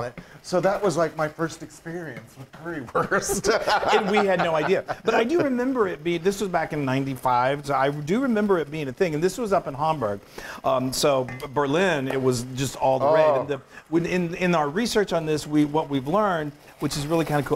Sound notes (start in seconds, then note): 2.9 laugh